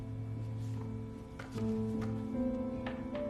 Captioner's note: none